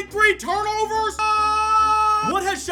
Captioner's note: yelling continues